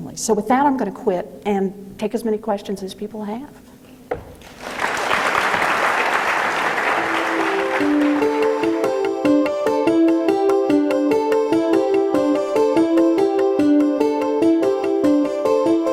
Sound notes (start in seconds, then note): 4.3 audience applauding; 7.0 dramatic music